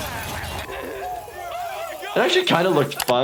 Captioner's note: glass breaking; Steve-O grunting; people screaming